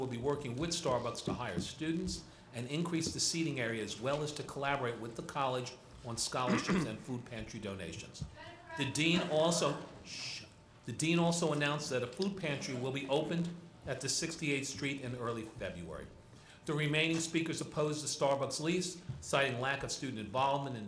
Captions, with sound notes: will be working with Starbucks to hire students and increase the seating area as well as to collaborate with the college on scholarship and food pantry donations. The dean also (shushing) the dean also announced that a food pantry will be opened at the 68th street in early February. The remaining speakers opposed the Starbucks lease citing lack of student involvement